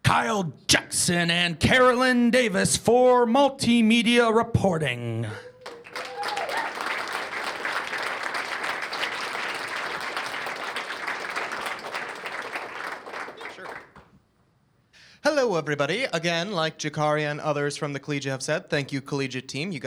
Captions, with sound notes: Kyle Jackson and Carolyn Davis for multimedia reporting. [CHEERS AND APPLAUSE] >> Sure. Hello, everybody. Again, like Jacari and others from the Collegiate have said, thank you, Collegiate team.